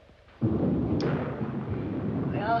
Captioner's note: thunder